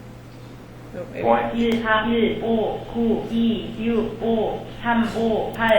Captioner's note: narrator speaks in Korean